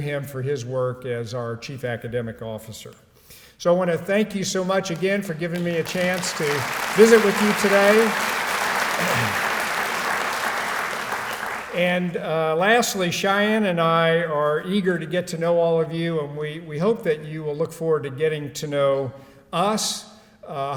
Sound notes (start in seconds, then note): 7.8 applause